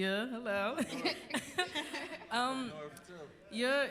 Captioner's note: laughter